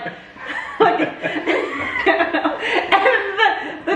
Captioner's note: family laughs